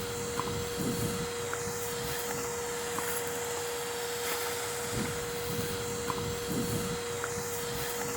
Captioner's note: whirring vacuum